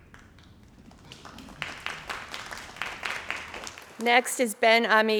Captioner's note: crowd applauding